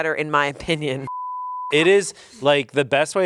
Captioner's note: beep